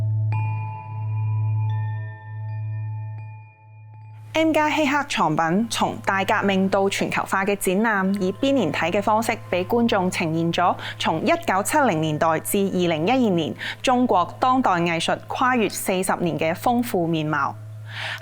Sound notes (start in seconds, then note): 4.6 Cantonese